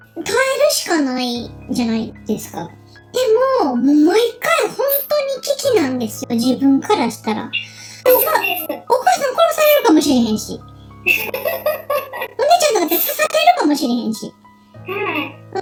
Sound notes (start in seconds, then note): 11.0 laughs